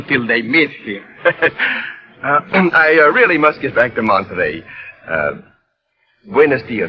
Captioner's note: laughs